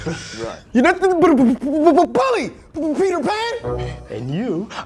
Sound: stutters

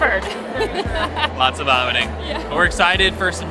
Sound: laughing

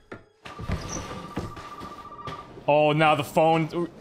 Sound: phone ringing

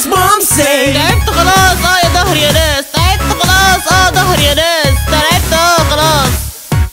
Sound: speaking Arabic

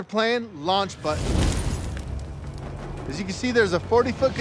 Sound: fire crackles

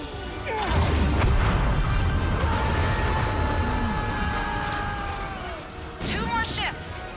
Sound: yells

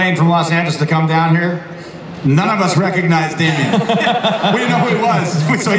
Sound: laughter

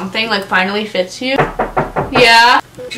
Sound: knock on door

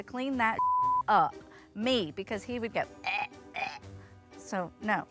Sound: gagging sounds

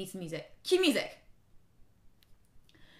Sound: silence

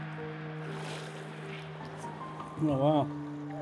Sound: water bubbling

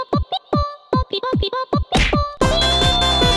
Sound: punch

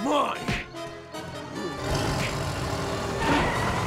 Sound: truck revving

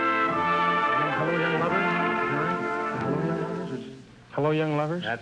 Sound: whispering

